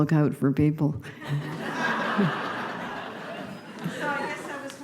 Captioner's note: raucous laughter